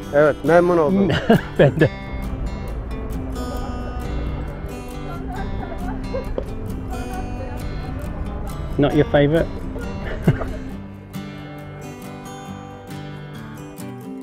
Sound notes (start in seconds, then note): 10.0 chuckles; 11.2 cheerful music